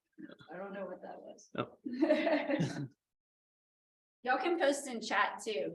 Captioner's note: laughter